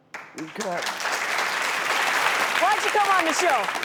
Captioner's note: audience applauds